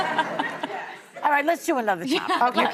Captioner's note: laughing